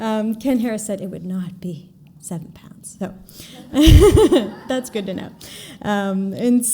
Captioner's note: giggle